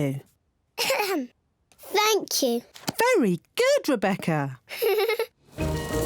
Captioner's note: clears throat; giggles